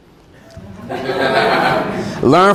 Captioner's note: students laugh